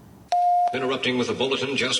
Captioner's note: news broadcast beeping